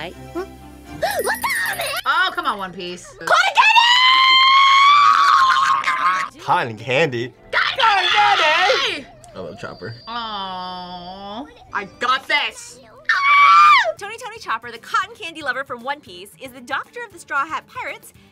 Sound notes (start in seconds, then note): 3.4 screams; 13.0 screams